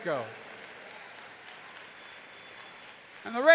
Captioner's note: applause